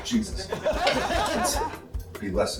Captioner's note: laughter